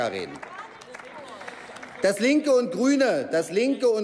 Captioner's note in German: Applaus